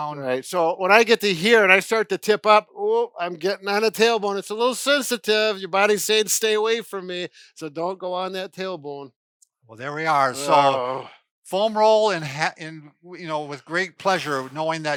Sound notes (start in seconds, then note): 10.4 groaning